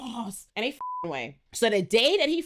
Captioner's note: beep